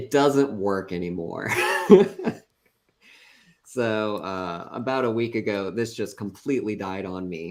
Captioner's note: laughs